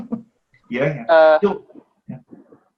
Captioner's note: laughing